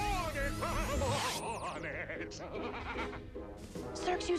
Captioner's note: laughing evilly